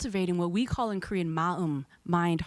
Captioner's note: speaking in foreign language